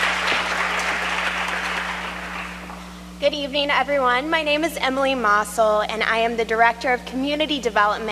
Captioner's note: applause